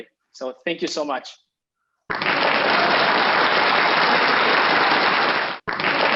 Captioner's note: applause